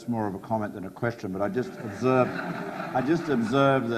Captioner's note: audience laughs